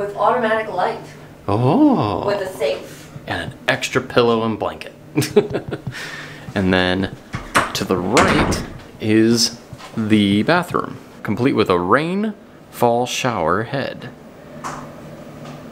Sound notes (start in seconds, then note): 5.2 laughs